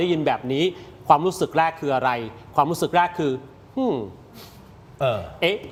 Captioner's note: sound of inhaling